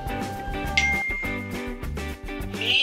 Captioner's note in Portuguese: notificação de celular